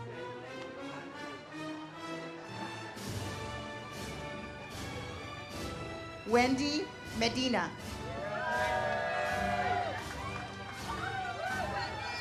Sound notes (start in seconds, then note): 0.1 ceremonial music; 8.0 audience cheers